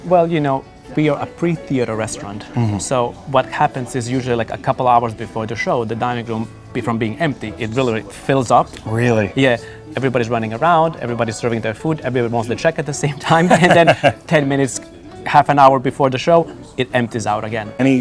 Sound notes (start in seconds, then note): 13.2 laughing